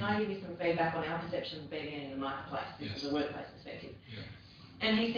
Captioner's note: audio distorts